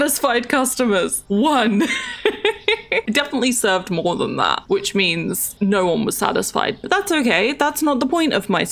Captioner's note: laughs